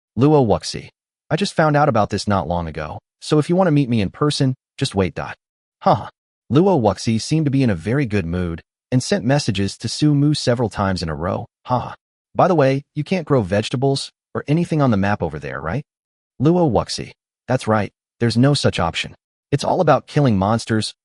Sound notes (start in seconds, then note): 5.8 haha